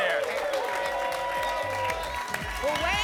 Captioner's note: applause and cheering